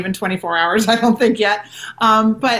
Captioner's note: chuckles